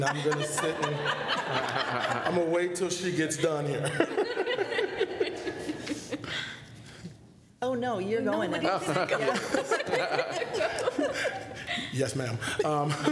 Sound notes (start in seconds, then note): 3.1 laughter; 8.4 laughing